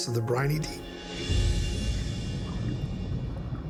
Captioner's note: water bubbling